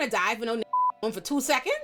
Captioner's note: beep